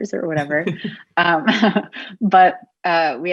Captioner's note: both laughing